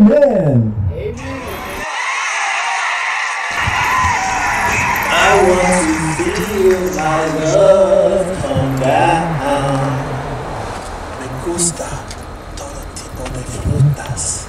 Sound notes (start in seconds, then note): 1.7 crowd cheering